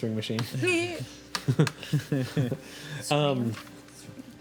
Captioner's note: laughing